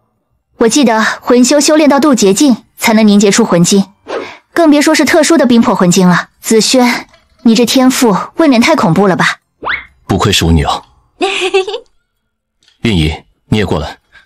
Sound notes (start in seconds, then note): 11.2 giggles